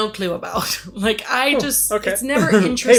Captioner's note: laughs